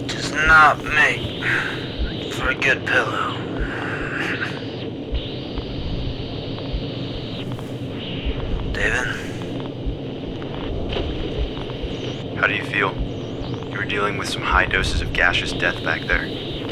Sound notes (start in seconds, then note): 4.9 radio static